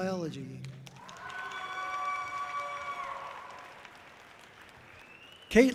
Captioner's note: audience cheering loudly